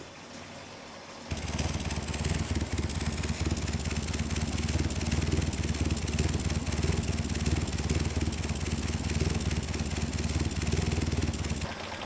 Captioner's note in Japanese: エンジン音